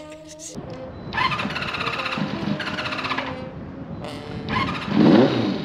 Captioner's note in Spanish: Sad engine noises